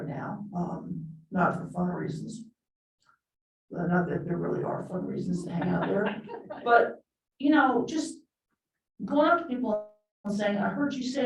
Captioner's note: laughter